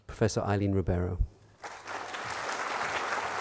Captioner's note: applause